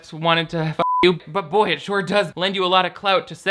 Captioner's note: beep